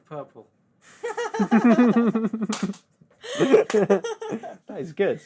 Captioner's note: laughing